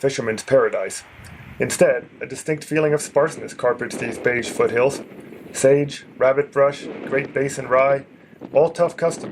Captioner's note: wind